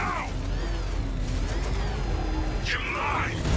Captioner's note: Batmobile whirring